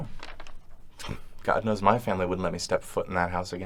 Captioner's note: scoffs